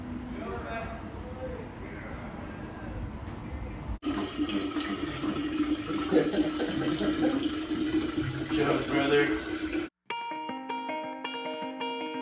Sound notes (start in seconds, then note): 5.9 laughter